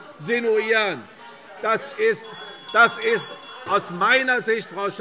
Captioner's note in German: Zurufe Freie Demokraten - Glockenzeichen